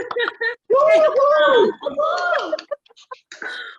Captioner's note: applause